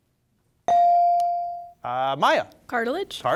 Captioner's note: bell sounding